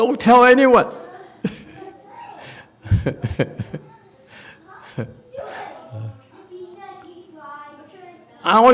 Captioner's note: laughs